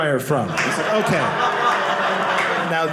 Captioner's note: audience laughing